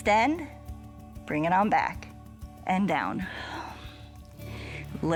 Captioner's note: exhales